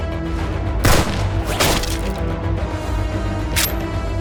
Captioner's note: gun firing; gun cocking